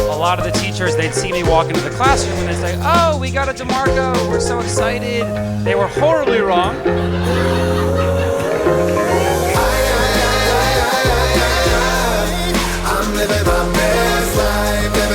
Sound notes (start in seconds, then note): 6.2 laughter